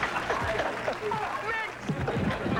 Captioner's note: laughter